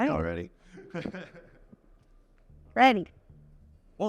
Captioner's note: laughs